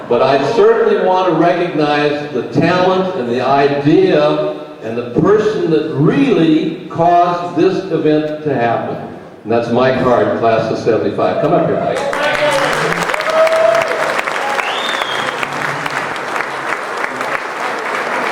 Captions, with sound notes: But I certainly want to recognize the talent and the idea, and the person that really caused this event to happen, and that's Mike Hart, class of '75. Come up here, Mike. - Go Michael! (crowd cheering) (crowd applauding)